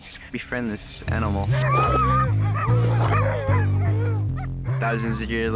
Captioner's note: dogs barking